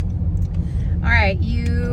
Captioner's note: car engine revving